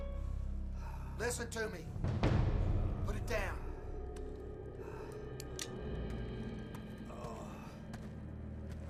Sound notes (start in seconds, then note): 5.1 Jason groaning